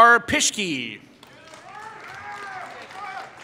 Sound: applause

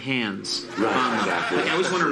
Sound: audience laughs

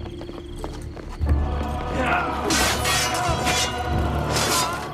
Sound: fighting sounds

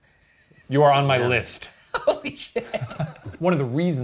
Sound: laughs

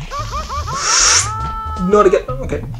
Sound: inhales

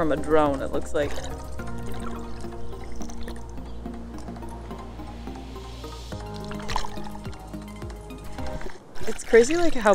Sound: background music; water splashing noise

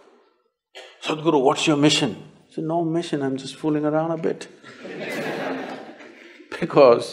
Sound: laughter

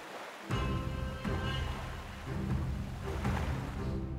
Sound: waves crashing

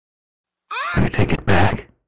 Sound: baby cries

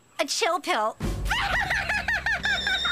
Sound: Courtney Laughing Loudly

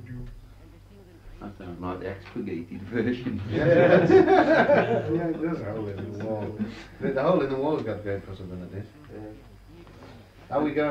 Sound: laughter

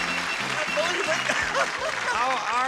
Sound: chuckling

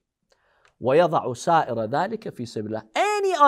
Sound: Arabic

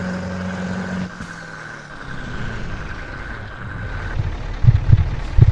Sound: worrying sound of the gearbox

